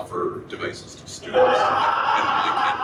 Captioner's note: person laughs